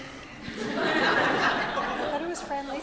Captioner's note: audience laughs